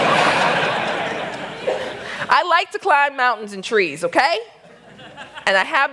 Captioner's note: laughter